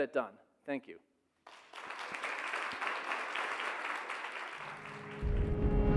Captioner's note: audience applauding; bright music